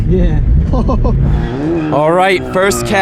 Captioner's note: laughs